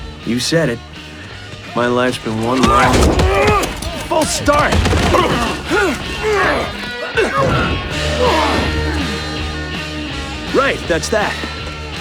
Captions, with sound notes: You said it, My life's been one long... (Urghhh!) ...false start. Right. That's that